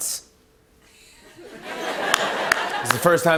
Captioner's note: light laughter